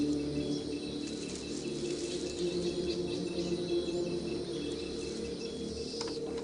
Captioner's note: leaves rustling